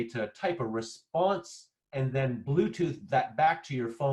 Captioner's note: none